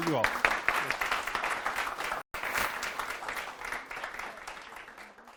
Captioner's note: applause